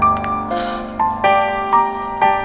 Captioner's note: Sighs